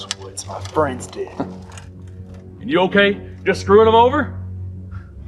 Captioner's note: chuckles